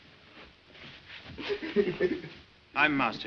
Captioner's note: hindley sobs